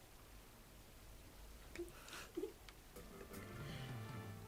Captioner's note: chuckles